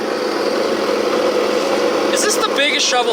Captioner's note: machines whirring